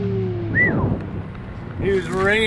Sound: whistling

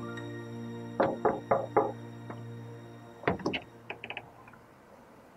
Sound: Tone knocking on door

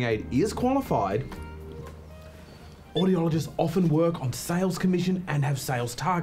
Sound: quietly

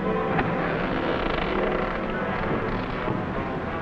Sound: door creaking

